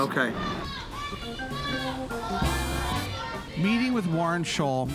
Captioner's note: protesters chanting